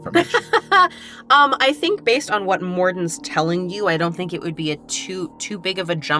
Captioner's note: laughs